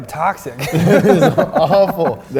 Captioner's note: laughing